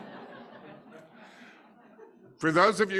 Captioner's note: audience laughing